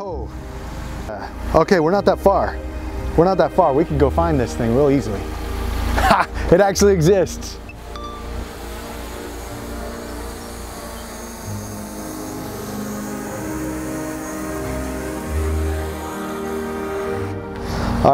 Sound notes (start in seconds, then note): 12.6 drone landing buzz